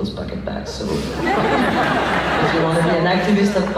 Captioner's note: laughs